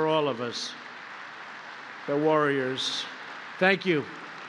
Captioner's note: applause